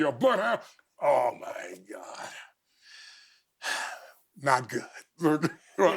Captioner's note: exhales